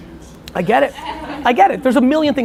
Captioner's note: laughing